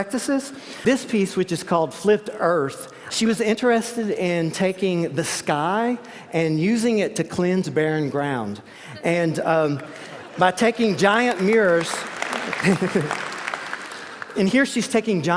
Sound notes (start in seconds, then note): 10.6 applause